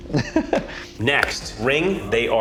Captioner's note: chuckles